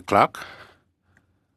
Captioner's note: speaking French